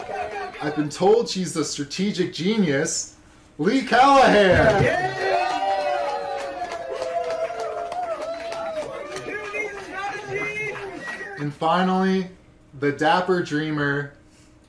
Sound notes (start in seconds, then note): 0.0 applause; 4.2 cheering